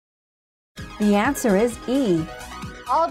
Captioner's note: female announcer speaking